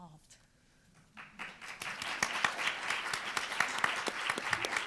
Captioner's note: room applauding